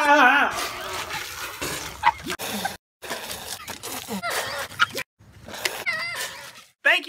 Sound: laughing

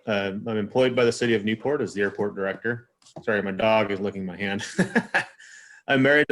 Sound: laughs

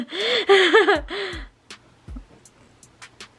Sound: laughs

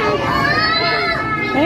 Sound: kids screaming and playing in background

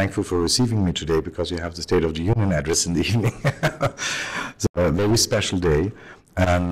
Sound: laughter

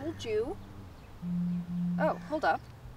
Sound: phone Buzzes

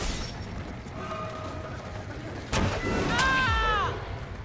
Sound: boom

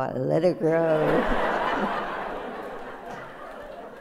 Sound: laughter

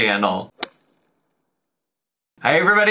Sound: bat swinging

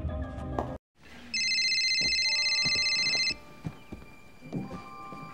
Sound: incoming call

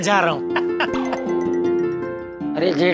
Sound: laughing

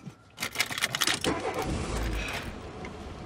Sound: car motor starts

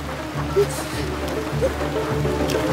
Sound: heavy rain & traffic sounds

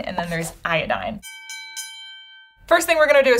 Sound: bell dings

